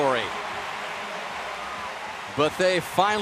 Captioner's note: cheering; pa announcement